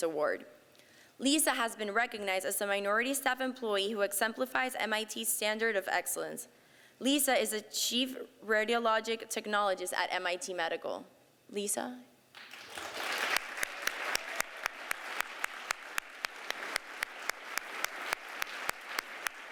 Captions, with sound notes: Award. Lisa has been recognized as a minority staff employee who exemplifies MIT standard of excellence. Lisa is a chief radiological technologist at MIT Medical. Lisa? [APPLAUSE]